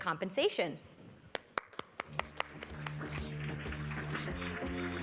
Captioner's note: applause